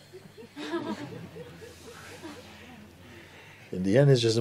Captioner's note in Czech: smích